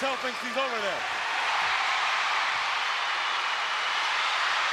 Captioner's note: crowd cheering